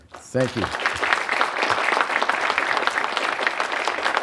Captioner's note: applause